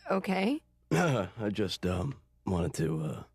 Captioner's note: McGuirk clears throat